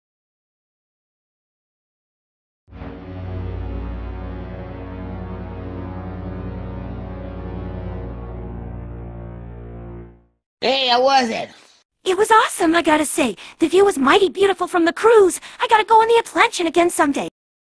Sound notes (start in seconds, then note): 2.7 RMS Princess Melody blows her horn